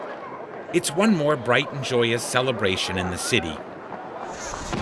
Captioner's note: crowd cheering